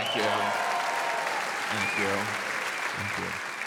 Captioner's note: audience applauds